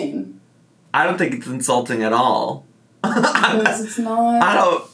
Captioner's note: laughs